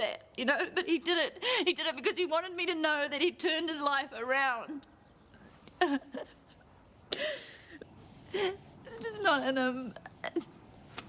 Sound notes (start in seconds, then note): 5.8 Trina sobbing